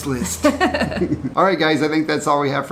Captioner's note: laughs